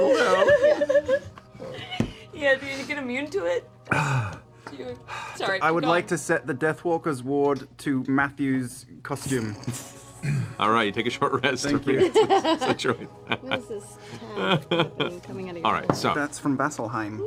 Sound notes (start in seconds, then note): 11.9 laughs